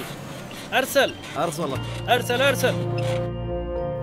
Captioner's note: Speaking in Arabic